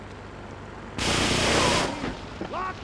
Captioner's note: sirens wailing